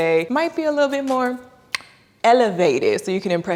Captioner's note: clicks tongue